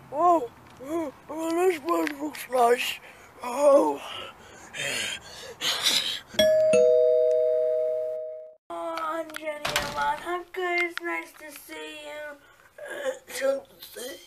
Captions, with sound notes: Whoa! Oh, this place looks nice. Oh, [breathing strangely] [doorbell rings] Oh, Andreneaman how good it's nice to see you. We shall see.